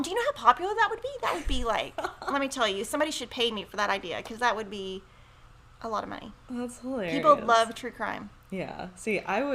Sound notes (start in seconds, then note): 1.2 laughs